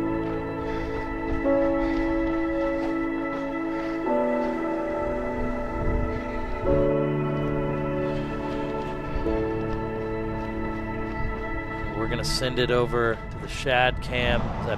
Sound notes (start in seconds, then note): 0.8 footsteps crunching; 9.9 footsteps pounding